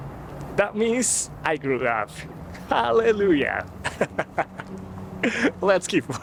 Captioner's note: laughs